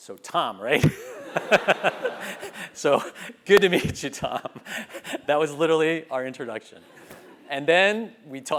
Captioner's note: laugh